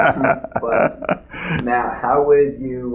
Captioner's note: laughter